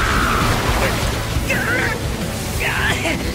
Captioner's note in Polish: Jęczy